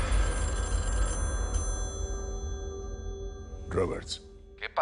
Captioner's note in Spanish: Suena el teléfono